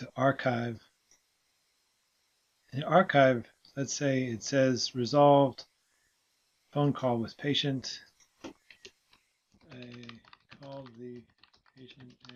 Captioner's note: typing